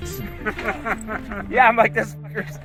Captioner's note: laughing